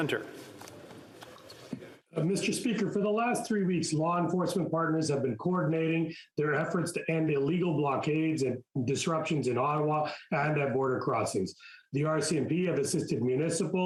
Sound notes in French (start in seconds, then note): 8.9 voix de l'interprète